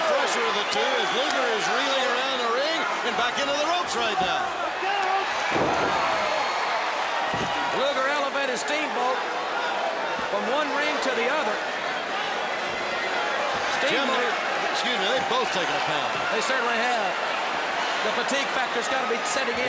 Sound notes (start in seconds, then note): 4.9 crowd cheering